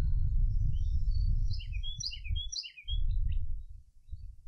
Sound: birds Chirping

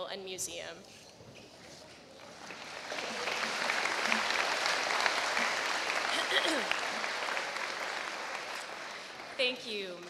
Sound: applause

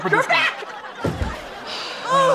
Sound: door closes; heavy sigh

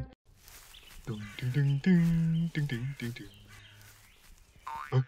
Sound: humming

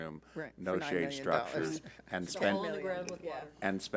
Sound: chattering

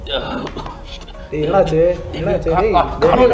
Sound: cough intensifies

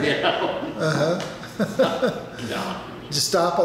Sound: laughing

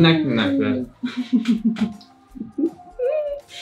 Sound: laughs

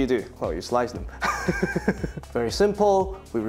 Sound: laughs

